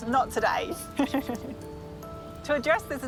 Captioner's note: laughs